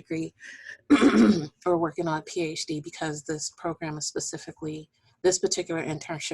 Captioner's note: clearing voice